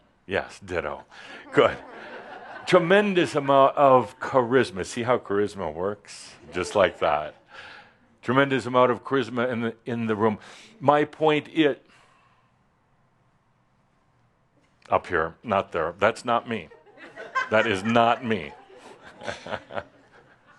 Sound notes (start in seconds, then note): 2.8 some chuckles; 13.0 he pauses; 19.2 chuckles and some laughter